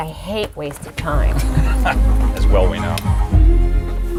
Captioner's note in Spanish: Laughs